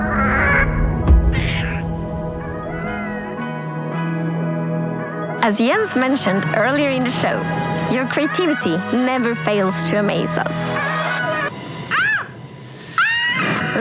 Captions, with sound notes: [Ghastling coos] [Chill music plays] As Jens mentioned earlier in the show, your creativity never fails to amaze us. [Screaming]